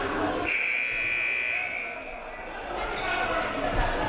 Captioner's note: buzzer